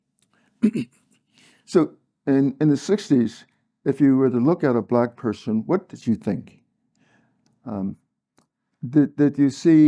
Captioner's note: cough